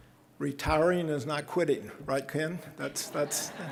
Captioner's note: audience laughing